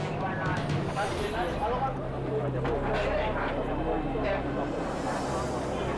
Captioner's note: tense music; all speaking in foreign language